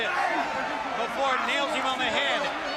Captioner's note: crowd chatter